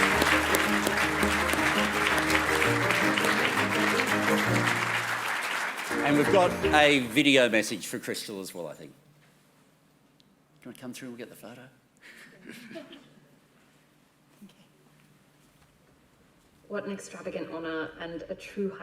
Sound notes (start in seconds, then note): 5.7 applause